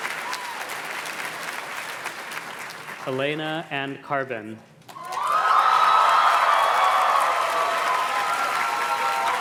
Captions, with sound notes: - Elena Anne Carbon. (audience cheers and claps)